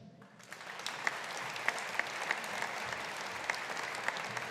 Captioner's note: audience applauding